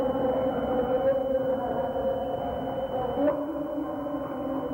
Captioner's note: humming